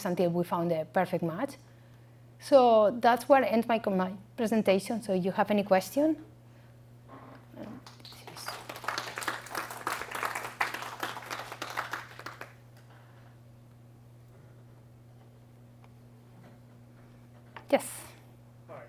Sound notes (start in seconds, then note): 7.8 applause